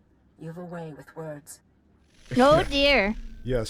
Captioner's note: giggles